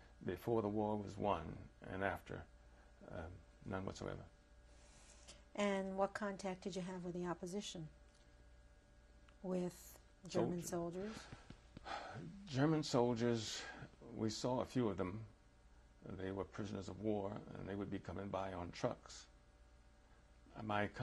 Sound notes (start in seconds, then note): 11.8 sighs